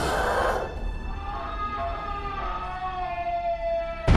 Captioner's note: Bud screaming; soft ominous music